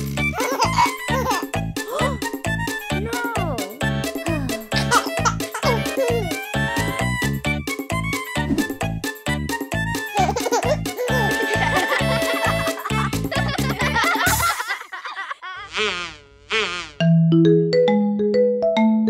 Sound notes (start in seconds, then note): 0.4 laughing; 1.8 gasping; 4.7 laughing; 9.2 playful music; 10.2 laughing